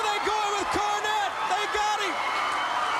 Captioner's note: crowd cheering